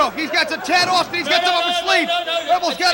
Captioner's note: crowd chatter; crowd cheering